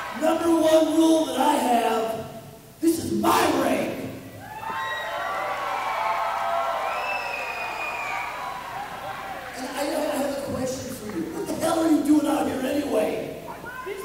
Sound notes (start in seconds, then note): 4.4 audience cheering